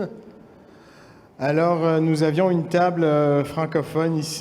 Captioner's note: speaking french